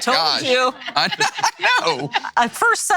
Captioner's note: laughs